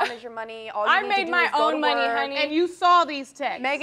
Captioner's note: scoffs